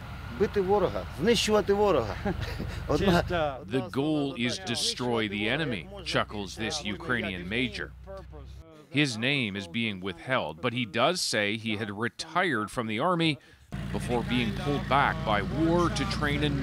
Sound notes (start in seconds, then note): 5.4 speaking alternate language